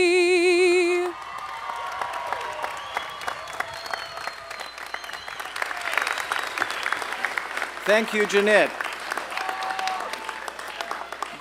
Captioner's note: applause and cheering